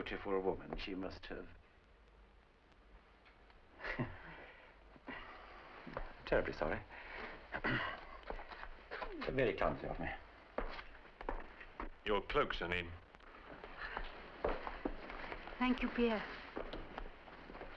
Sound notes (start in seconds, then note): 3.8 chuckles; 7.6 clears throat